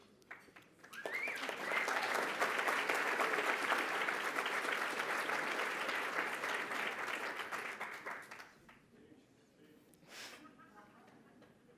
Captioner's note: applause